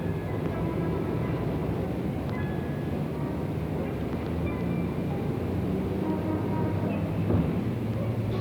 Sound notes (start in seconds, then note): 4.4 cars honking / sounds of the city